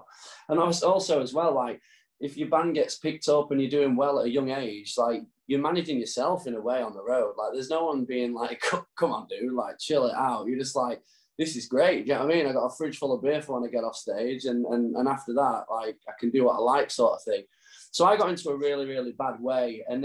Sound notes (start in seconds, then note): none